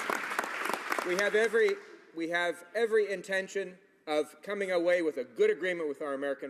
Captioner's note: some Applause